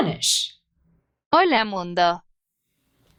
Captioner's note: spanish